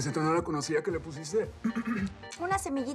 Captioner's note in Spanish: carraspea